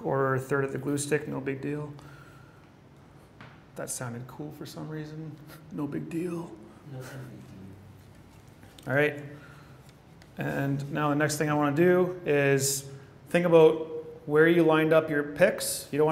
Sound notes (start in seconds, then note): 7.1 man speaking off mic